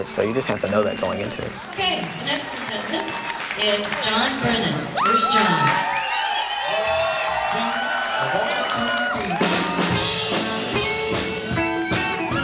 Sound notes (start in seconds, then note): 5.9 crowd cheers; 9.6 country music